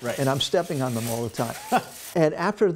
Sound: laughter

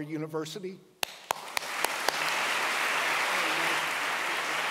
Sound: audience claps

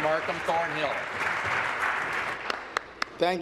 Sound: applause

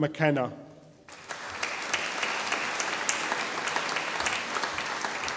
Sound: audience applauding

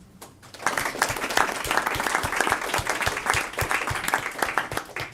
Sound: applause

